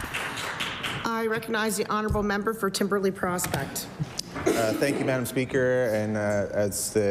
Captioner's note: applause